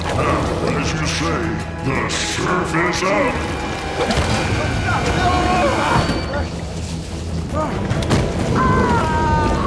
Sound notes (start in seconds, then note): 4.4 Shaz and Walter shouting